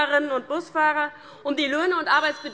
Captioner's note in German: Unruhe - Glockenzeichen des Präsidenten